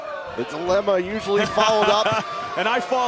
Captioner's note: crowd chatter